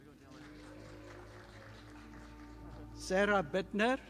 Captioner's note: audience applauding